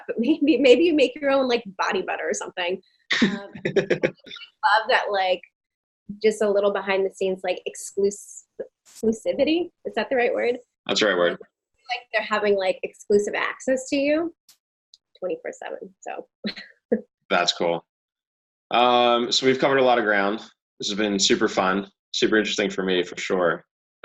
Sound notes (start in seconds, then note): 17.3 chuckling